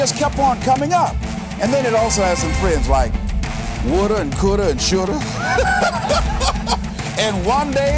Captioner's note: chuckle